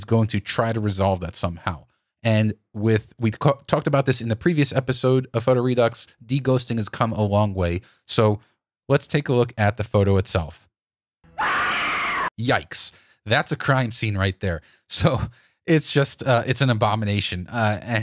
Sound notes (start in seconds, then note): 11.3 screaming